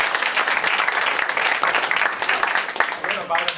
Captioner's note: applause